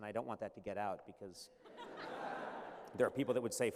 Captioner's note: laughter